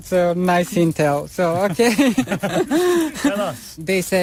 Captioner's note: Risas